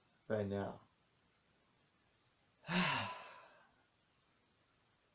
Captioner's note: sighs